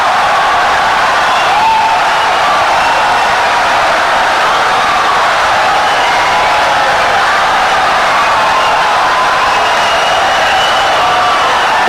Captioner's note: wild applause and cheering for 17 seconds